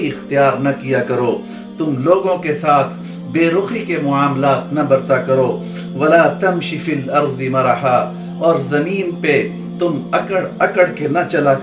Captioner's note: Arabic